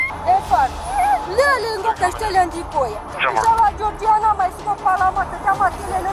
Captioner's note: suspect speaking foreign language